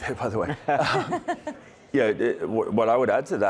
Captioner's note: everyone chuckling